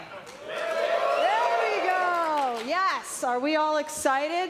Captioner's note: cheers and applause